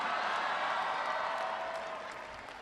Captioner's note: applause